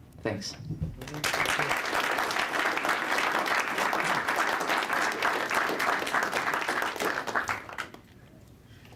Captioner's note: applause